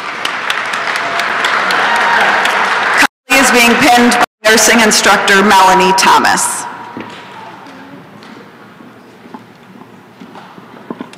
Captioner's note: applause and cheering